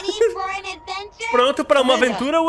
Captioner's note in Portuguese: risos